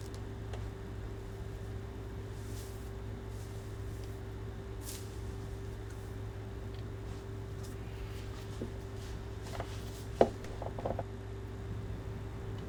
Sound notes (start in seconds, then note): 1.5 wig rustling; 10.1 counter creaks